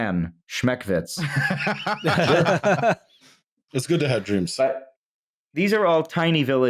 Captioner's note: laughter